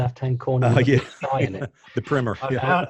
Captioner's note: laughing